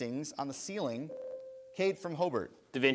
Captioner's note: bell rings